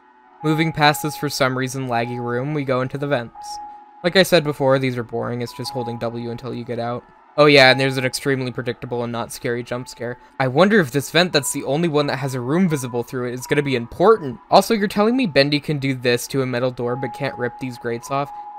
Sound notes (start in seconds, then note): 10.0 sacasticlly